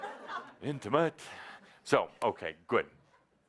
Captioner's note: laughter